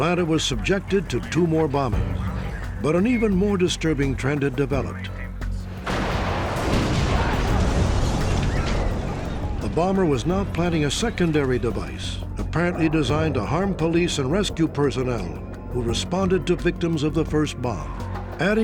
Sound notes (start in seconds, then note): 5.8 explosion